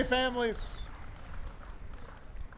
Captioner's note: applause